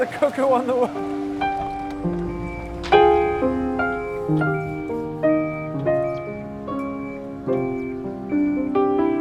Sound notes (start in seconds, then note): 1.5 somber piano music; 1.5 truck beeping